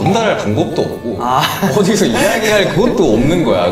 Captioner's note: haha